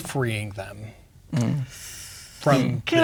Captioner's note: inhales